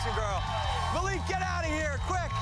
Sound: cheers and applause

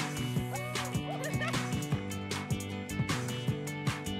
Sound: laughs

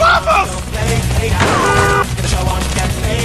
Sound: angry car

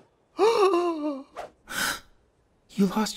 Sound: gasp

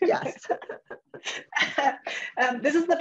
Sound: chuckles

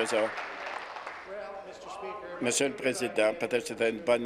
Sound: applause

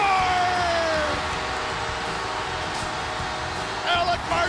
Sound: cheering

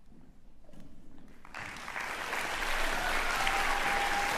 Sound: cheers and applause

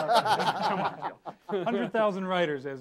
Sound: all laughing

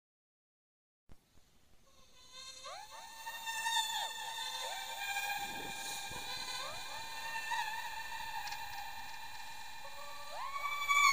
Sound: eerie sound

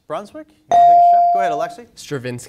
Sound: bell dings

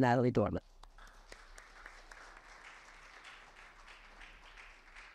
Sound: audience applauds

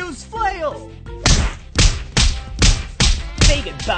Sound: cartoonish music; Megakarp whipping

